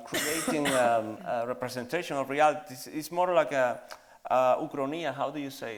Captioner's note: in Spanish